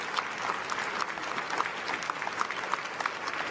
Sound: applause

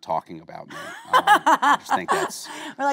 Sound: Kate laughing

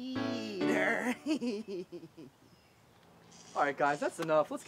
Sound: laughing

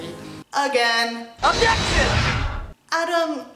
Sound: Phoenix Wright Objection Sound

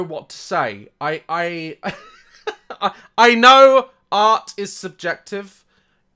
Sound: laughs

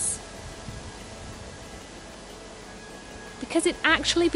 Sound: leaves rustling

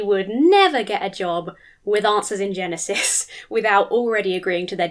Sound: chuckles

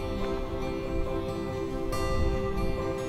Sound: none

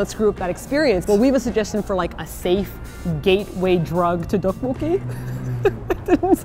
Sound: laughs

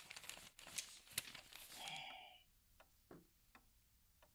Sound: clock ticking

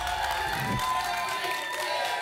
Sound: applause and cheering; whoosh; applause and cheering

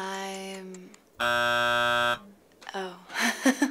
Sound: buzzer buzzes

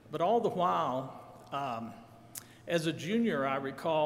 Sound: none

